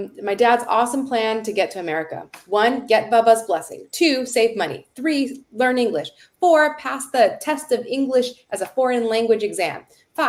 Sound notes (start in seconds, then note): none